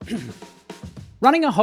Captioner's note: clears throat